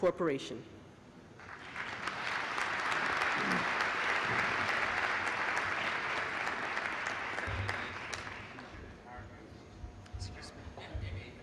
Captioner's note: applause